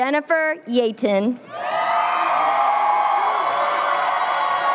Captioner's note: cheering